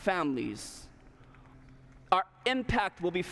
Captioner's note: applause